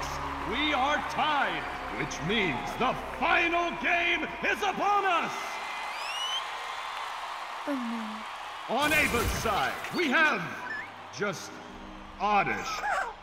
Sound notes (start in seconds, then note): 5.4 audience cheering